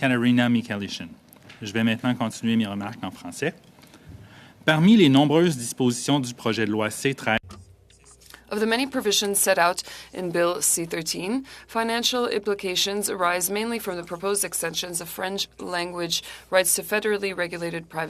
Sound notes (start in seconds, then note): 9.3 speaking French